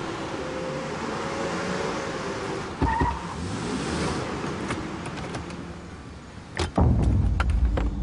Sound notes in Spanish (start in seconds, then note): 0.0 Ruido de las camionetas; 2.7 Chasquido de llantas